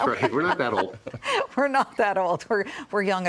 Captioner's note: laughter